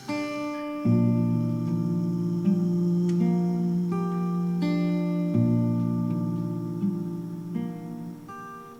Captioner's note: humming